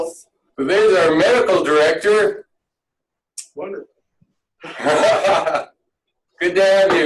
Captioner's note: laughing